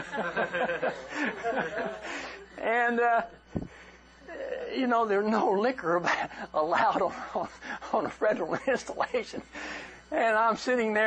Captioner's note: laughter